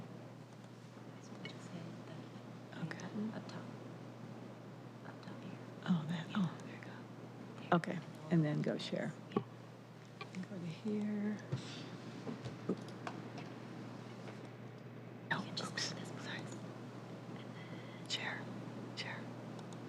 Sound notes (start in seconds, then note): 8.7 whispering